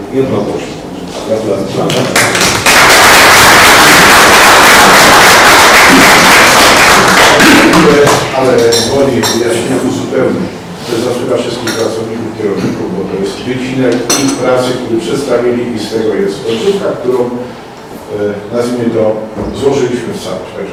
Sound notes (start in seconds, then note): 4.1 oklaski